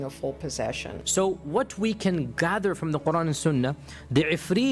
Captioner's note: speaking in Arabic